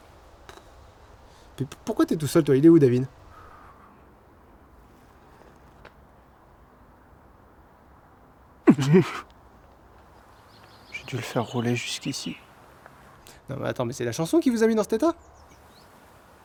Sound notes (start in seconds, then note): 0.2 pff; 8.6 gasps and twitches